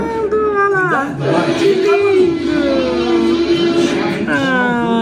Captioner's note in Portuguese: grunhidos continuam